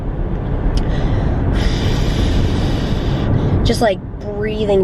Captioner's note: forced exhale